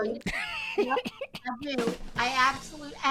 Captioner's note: host laughing